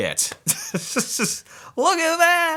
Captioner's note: laughs happily